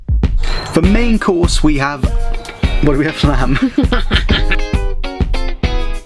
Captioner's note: laughing